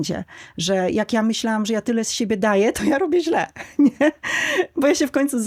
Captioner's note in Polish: śmiech